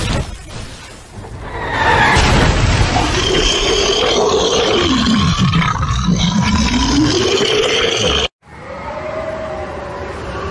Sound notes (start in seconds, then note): 2.9 loud, Bellowing Roars